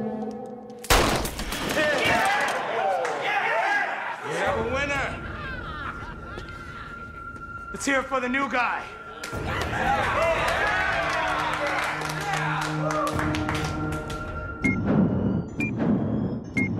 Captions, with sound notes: [Gunshot] [Inmates applaud and cheer] We have a winner. Let's hear it for the new guy. [Inmates applaud and cheer some more]